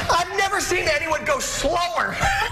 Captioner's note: laughter